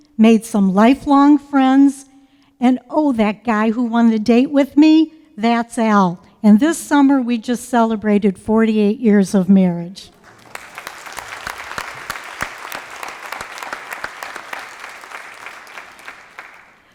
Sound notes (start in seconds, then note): 10.1 applause